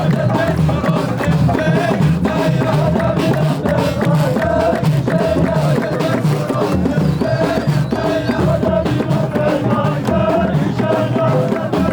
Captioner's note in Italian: Applauso